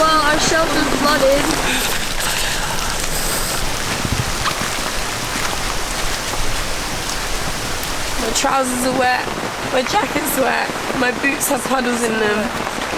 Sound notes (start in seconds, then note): 4.3 rain pours